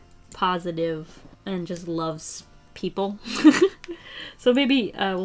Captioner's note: laughs